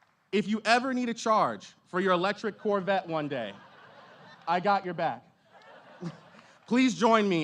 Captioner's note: applause